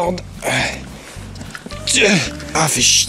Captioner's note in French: gémissements dus à l'effort physique